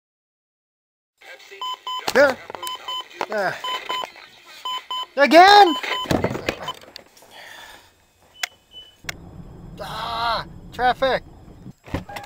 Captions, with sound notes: [alarm clock beeping] What?! Again! Ah! Traffic!